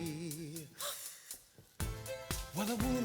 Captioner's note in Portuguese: Pat gasps